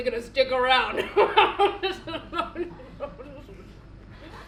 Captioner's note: she laughs